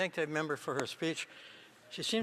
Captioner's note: speaking French